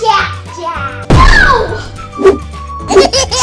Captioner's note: Jack-Jack whooshes; laughs